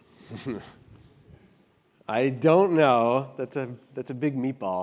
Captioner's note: laugh